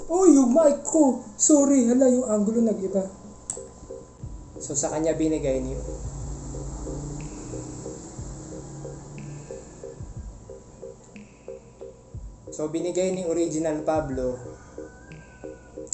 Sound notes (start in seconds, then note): 4.7 motorcycle sounds; 5.7 rooster crows; 13.8 rooster crows